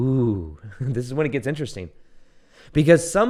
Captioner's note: chuckles